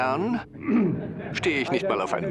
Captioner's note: audience laughs